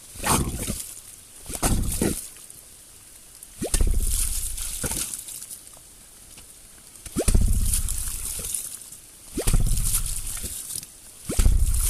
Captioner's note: more slurps and pops